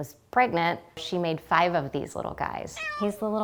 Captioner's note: meow